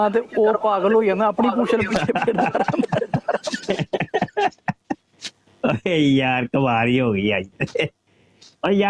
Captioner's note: laugh